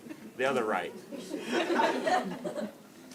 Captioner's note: laughter